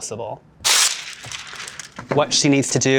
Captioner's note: paper tearing